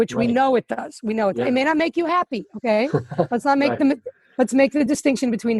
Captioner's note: laughing